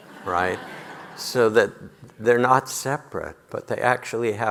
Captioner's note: audience laughing